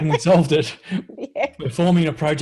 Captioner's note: laughing